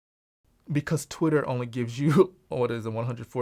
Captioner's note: laughs